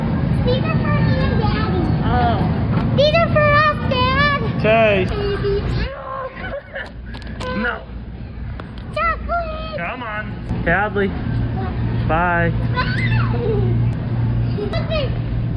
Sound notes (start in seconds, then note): 5.7 laughs; 12.7 squeals